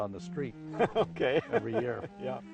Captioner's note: laughs